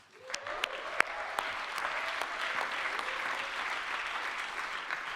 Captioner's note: audience clapping